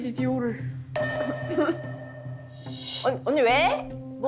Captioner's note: something empty sound effect